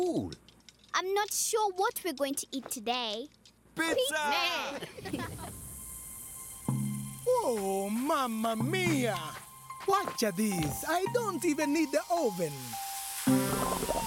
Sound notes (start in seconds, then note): 3.8 Moyo bleating; 4.6 chuckling; 5.7 sizzling; 12.3 sizzling